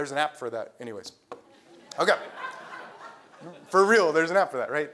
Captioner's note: laugh